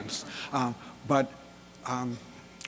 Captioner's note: audience laughter